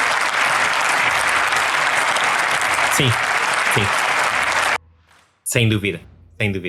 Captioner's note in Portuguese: aplausos